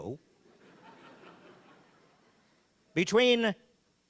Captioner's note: audience laughing